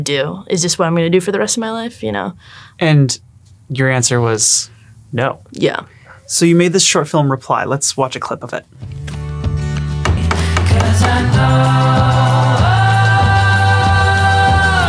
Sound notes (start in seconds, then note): 8.7 hopeful acoustic music; 10.0 hammering